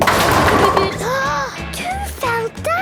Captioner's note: giggling, Peppa gasping